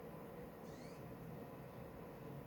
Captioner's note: external dvd drive reading sound